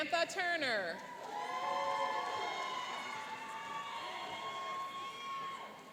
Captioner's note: cheering and applauding